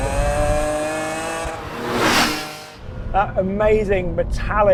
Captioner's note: engine growls